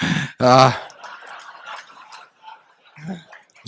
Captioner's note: laughter